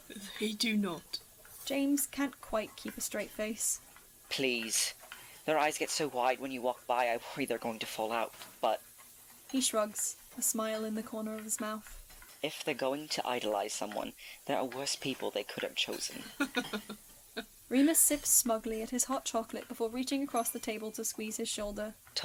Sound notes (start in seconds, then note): 16.1 chuckles